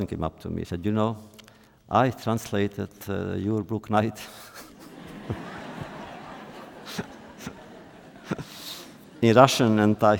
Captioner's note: laughter